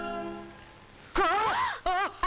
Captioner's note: Groans